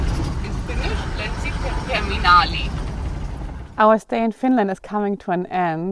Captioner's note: speaking in foreign language